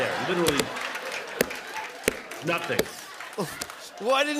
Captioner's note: laughter